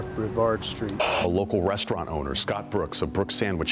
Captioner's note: police radio squelching